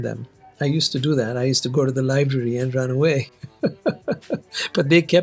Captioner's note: laughs